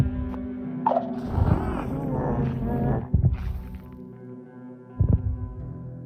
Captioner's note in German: knurren